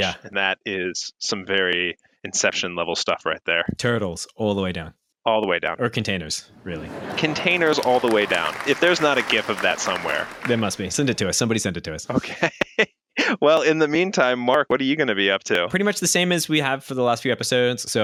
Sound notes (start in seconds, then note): 7.0 canned laughter and applause; 13.0 laughing